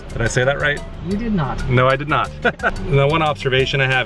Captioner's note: laughter